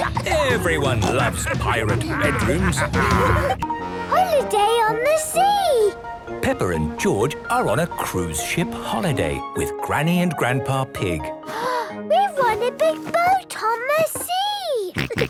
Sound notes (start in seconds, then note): 2.8 laughter; 11.4 gasps